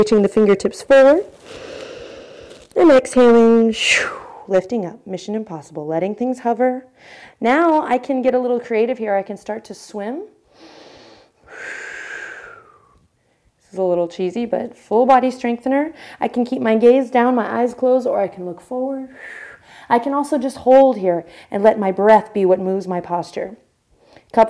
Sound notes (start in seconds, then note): 1.4 inhale; 10.5 inhale